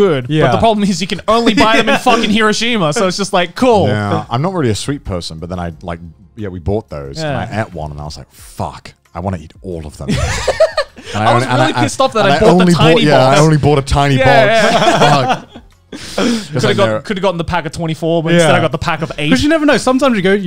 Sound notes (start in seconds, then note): 10.1 laughing; 14.4 laughing